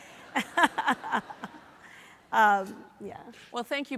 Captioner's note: audience laughs